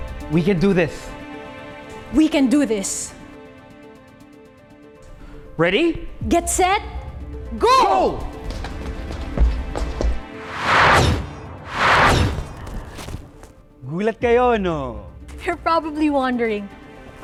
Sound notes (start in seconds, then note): 10.4 wooshing sound